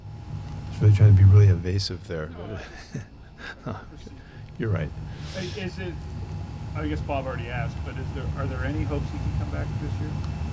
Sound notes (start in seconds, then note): 2.3 reporters laughing; 2.4 Pete chuckles